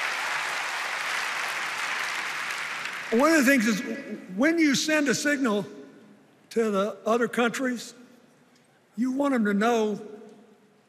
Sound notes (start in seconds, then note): 3.6 cheers and applause